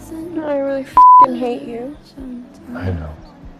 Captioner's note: beep